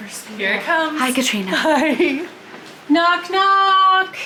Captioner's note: laughing